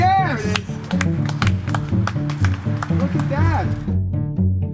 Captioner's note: clapping